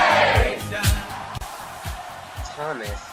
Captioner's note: cheering